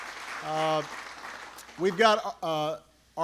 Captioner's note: applause